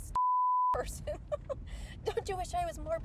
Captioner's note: chuckles